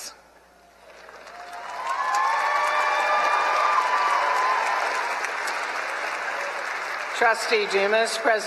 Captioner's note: applause